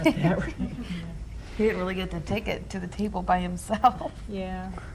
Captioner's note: laughs